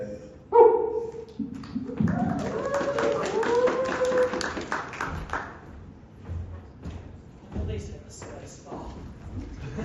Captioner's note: applause